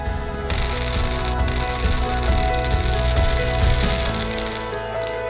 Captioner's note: dramatic music; fireworks exploding